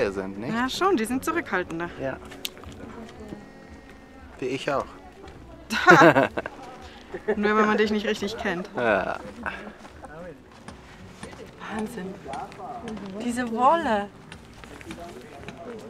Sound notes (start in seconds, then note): 5.7 laughs